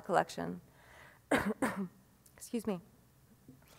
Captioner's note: coughs